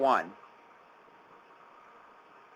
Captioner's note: silence